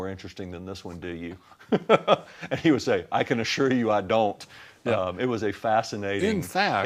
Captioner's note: sounds of laughter